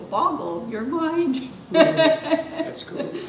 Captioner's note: laughter